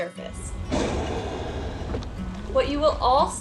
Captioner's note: Cook Inlet beluga blows air